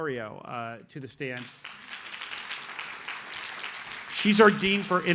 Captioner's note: audience applauds